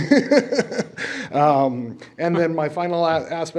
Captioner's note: chuckling